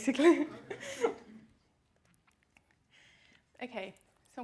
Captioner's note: laughing